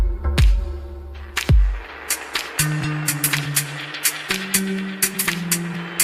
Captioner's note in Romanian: Aplauze